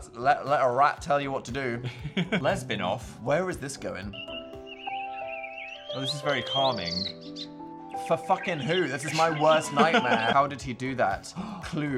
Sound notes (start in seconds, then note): 3.4 birds chirping; 4.5 gentle music